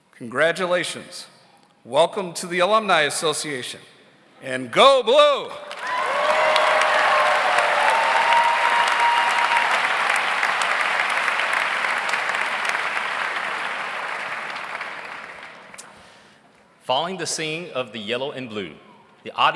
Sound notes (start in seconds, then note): 5.6 audience cheers; 5.6 audience applauds